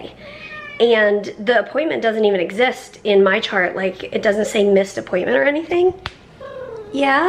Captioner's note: Harry meows